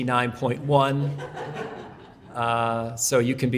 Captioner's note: audience laughs